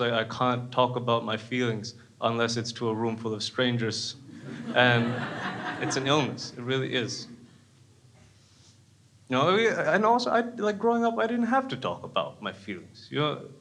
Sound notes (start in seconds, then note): 4.3 crowd laughs